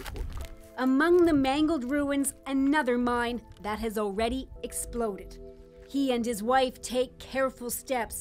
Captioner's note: speaking Ukrainian language